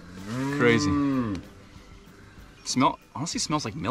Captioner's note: cow moos